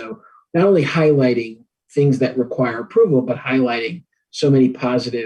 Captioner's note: none